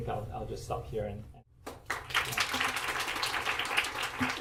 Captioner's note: applause